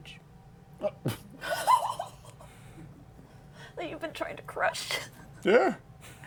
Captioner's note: laughs